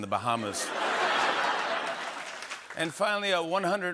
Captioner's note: laughter and applause